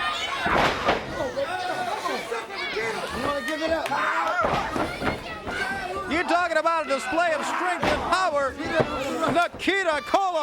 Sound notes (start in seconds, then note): 4.1 crowd chatter; 9.1 crowd chatter